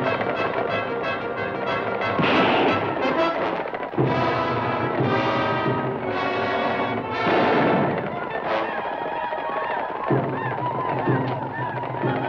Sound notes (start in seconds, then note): 2.1 gun fires; 7.1 gun fires; 8.7 native Americans howl